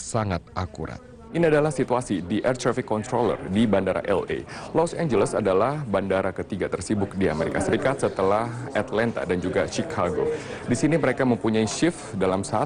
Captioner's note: non-english speech